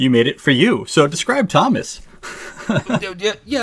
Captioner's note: laughs